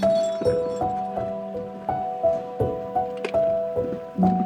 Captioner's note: metal clinking